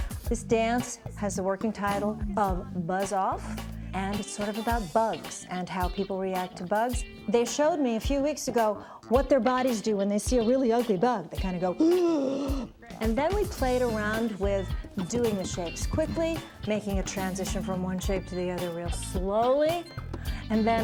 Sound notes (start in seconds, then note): 11.8 gasps